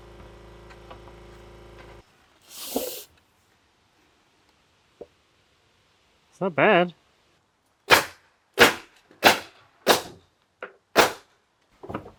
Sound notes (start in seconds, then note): 8.2 nail gun shooting